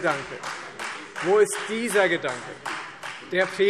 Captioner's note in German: Beifall Freie Demokraten